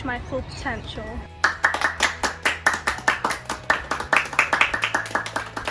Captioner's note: crowd applauding